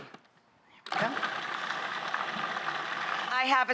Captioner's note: blender whirring